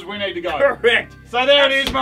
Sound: laughs

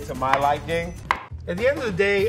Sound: chopping carrot

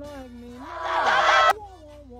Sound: opens a hell window and all the demons scream

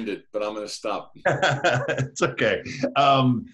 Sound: laughs

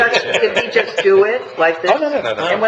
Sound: laughing

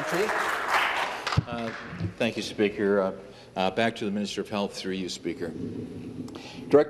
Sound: applause

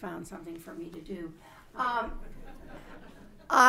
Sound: laughter

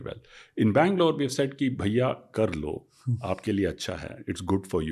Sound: speaks in Hindi

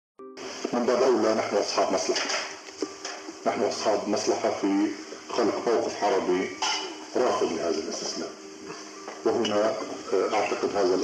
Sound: speaks with a Levantine accent

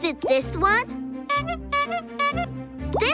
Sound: horn honking

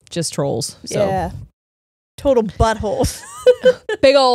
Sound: laughing

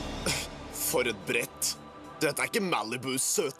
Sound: scoffs

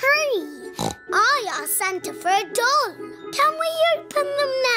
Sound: snorts

